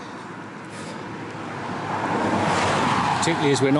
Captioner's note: passing Traffic